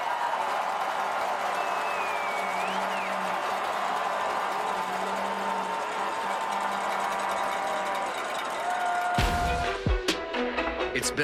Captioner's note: cheering and Applause